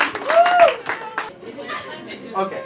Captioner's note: applause